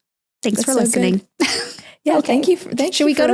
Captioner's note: chuckling